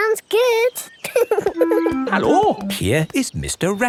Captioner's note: laughing